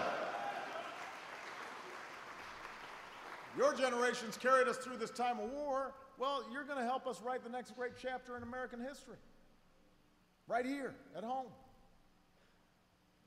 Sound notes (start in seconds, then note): 1.8 applause